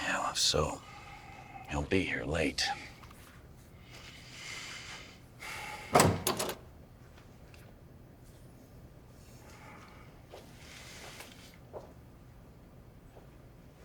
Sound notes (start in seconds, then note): 5.4 Joseph sighs; 5.9 door clicks